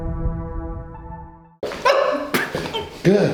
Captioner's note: yelping